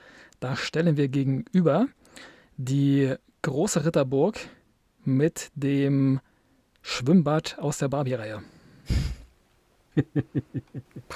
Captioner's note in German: gelächter